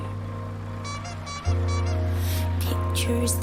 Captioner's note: horn squeaking